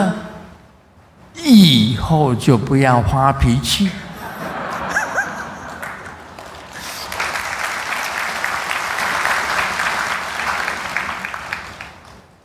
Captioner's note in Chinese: 眾鼓掌